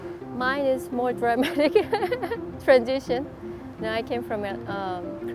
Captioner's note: laughs